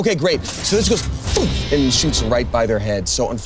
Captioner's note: sputters